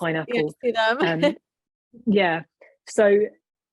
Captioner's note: laughing